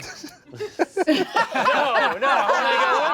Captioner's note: everyone laughs